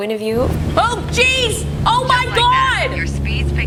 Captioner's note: simulator engine whirs